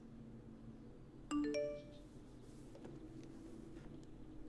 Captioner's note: phone beeps